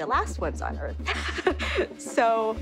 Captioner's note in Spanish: risas